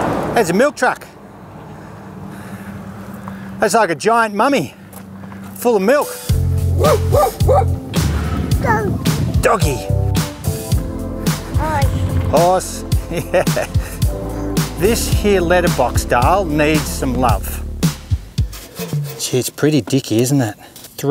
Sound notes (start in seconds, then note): 6.7 dog bark